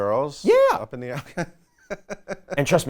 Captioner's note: laughing